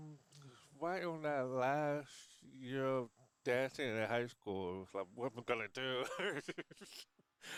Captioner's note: laughs